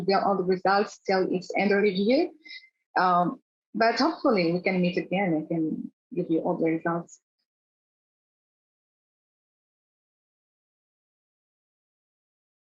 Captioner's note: pause